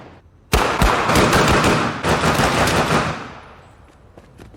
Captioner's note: guns firing